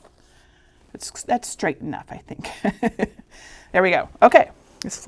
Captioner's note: chuckling